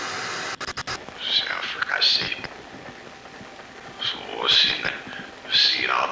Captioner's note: person speaks in foreign language